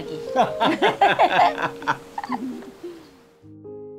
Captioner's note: both laughing